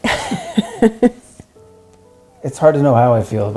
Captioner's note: laughs